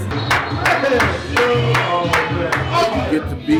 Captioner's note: clapping